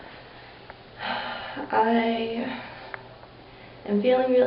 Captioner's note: sighs